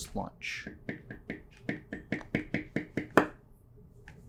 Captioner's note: tapping pen